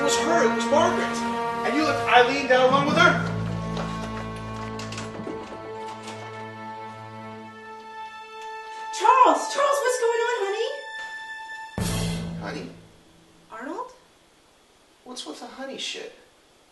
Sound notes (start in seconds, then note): 4.6 doorknob rattles; 11.7 music stops abruptly